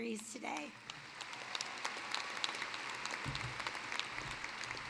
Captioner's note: applause